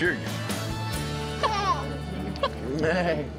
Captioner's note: babbles